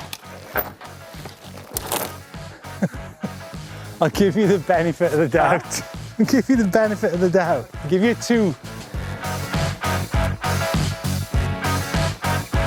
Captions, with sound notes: (laughing) I'll give you the benefit of the doubt. I'll give you the benefit of the doubt, I'll give you two. (soft upbeat music)